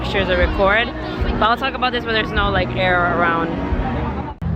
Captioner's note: wind